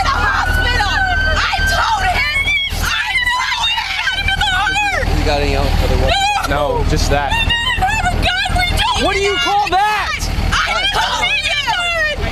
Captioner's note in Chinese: 一阵吵杂、混乱的咒骂声、争吵持续着